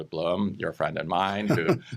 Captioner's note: chuckles